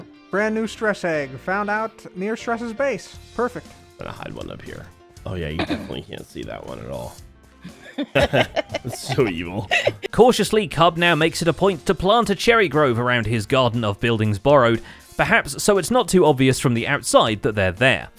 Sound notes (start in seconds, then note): 7.6 giggles evilly